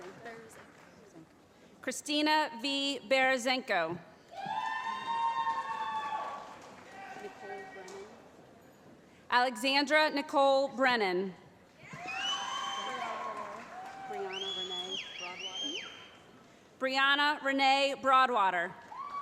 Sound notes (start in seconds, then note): 4.3 cheering; 11.9 shouting; 14.2 whistling; 18.8 cheering